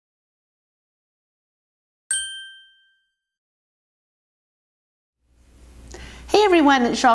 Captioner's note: ding